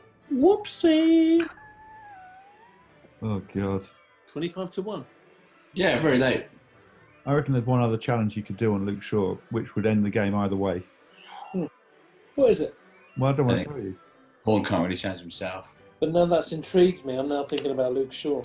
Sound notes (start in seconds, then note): 0.2 high pitched; 11.0 exhales